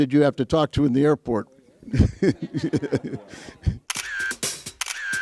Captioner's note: man laughs